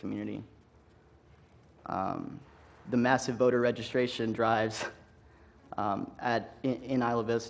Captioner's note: laugh